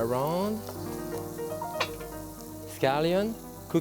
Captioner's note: shrimp sizzling